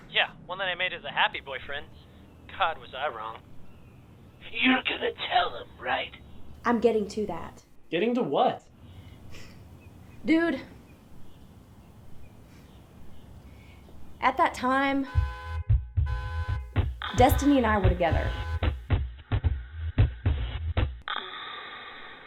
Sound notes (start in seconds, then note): 14.9 horn honking